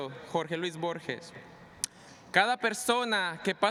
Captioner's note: speaking spanish